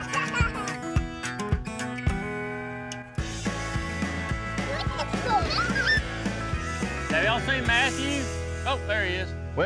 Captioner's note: kids giggling